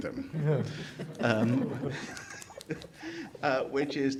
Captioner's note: attendees laughing